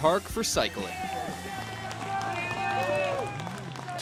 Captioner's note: cheering and clapping